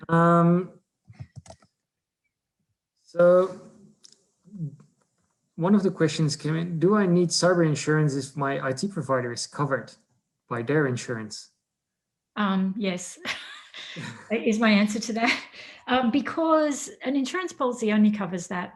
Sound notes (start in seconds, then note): 13.6 laughs